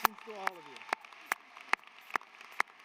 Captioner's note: applause